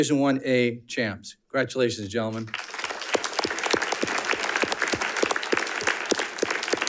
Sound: audience applauding

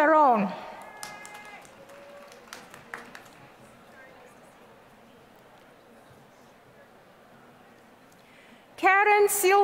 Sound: applause

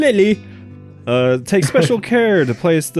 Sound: chuckles

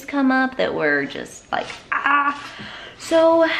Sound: groans

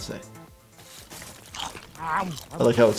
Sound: Bender munching popcorn

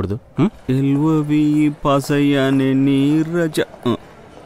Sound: humming a song

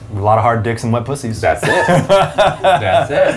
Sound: laughs

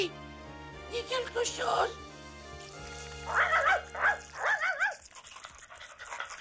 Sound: Skippy barking, panting through speaker

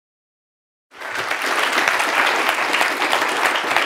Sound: applause

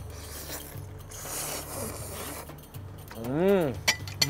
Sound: slurping

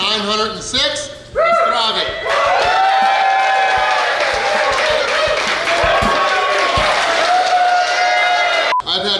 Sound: cheering & Clapping

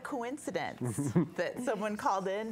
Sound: chuckles

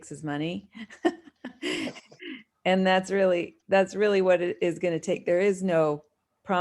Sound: laughter

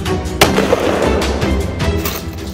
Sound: loud gunshot

